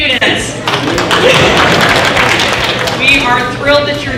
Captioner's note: applause